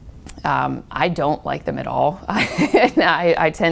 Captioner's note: laughs